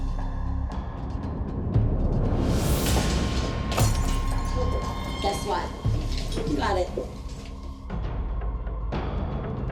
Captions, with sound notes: [bottle shatters] Guess what? You got it. [tense music]